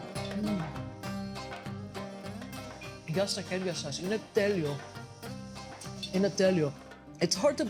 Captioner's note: speaking greek